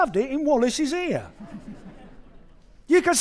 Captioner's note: audience laughing